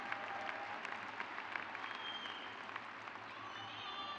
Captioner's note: crowd cheers